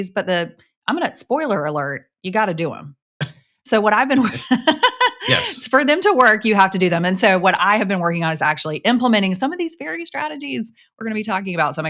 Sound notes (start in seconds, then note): 4.1 laughs